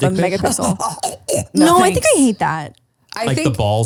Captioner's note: gags